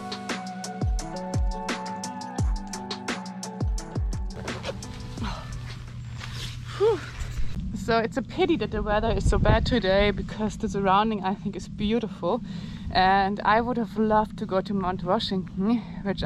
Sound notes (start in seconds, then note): 0.0 lively music; 4.3 zip whirring; 4.7 sighing